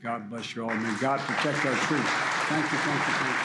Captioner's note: applause